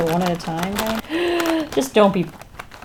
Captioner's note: gasps